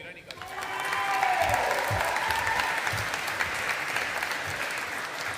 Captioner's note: audience applauding